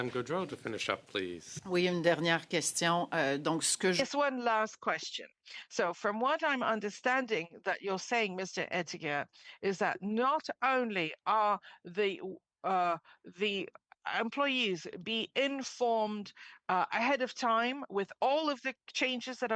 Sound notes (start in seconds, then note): 8.8 speaking French